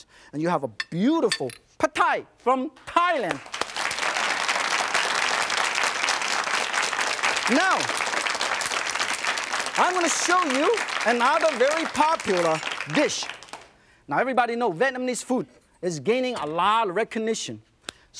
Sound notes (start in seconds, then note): 3.5 audience claps